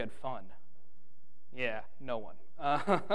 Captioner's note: laughing